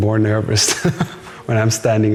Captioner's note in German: lacht